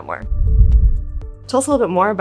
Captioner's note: frame whooshes